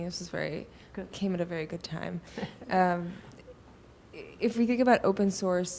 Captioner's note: chuckles